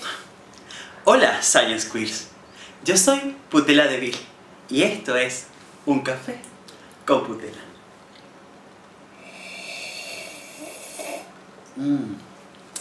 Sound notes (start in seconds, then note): 9.1 sips loudly